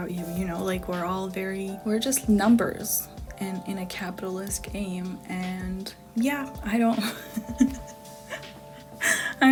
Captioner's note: self-cringe giggle